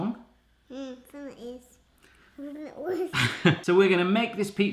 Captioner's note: mumbles and giggles